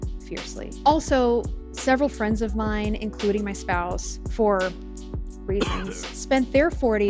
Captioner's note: coughs in C0v1D